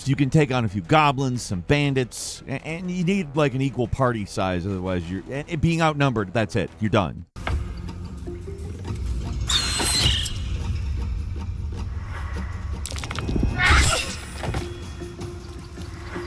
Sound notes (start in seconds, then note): 7.7 light percussive music; 9.7 blow thuds; 9.7 creature screeches; 13.7 blow thuds